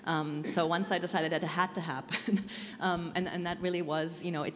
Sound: chuckling

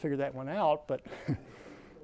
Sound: laughs

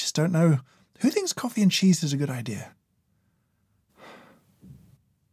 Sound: sighs

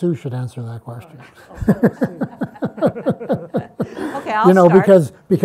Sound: all laugh

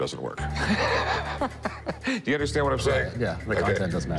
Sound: laughs

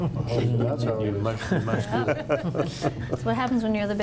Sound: chatter and laughter

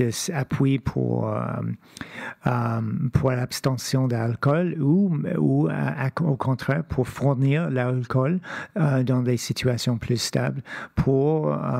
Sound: speaking French

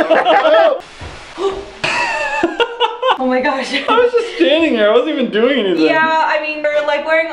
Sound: laughter; gasps

